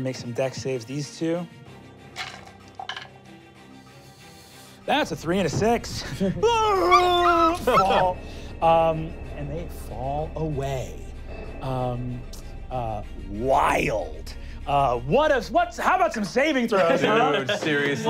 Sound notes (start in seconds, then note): 2.1 rolling dice; 6.8 yelling